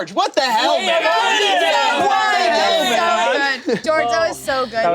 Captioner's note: group shouting